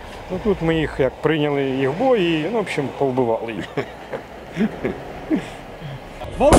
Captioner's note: laughs